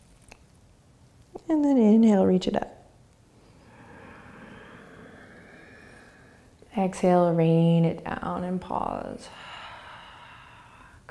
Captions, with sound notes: And then inhale, reach it up. (breathing) Exhale, rain it down and pause. (exhaling)